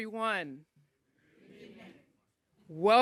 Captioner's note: audience chanting